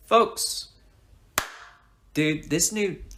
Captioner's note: clap